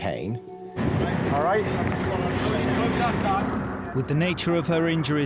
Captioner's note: group chattering